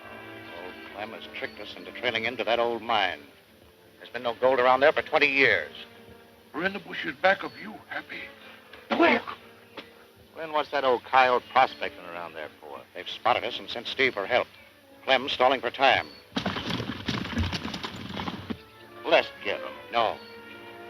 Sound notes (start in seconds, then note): 16.3 horses galloping